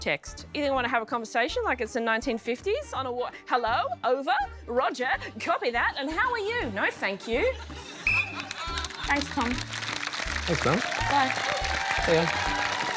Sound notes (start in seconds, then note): 8.0 blows whistle